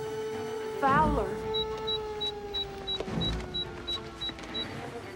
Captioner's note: beeping